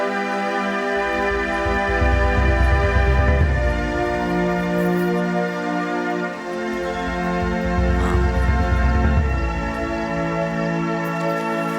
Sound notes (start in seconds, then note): 4.1 keys clinking